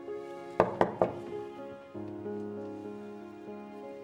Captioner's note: knock thuds